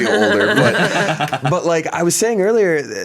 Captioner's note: everyone laughs